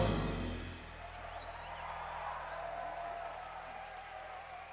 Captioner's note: applause